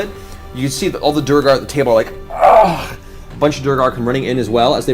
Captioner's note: groans